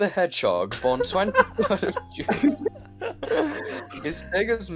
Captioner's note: laughter